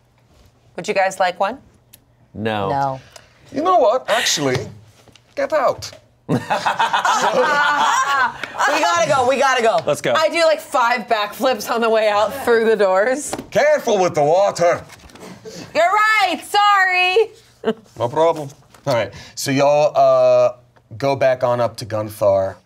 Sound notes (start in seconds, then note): 6.3 everyone laughs